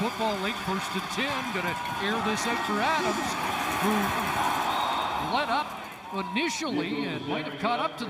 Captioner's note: crowd din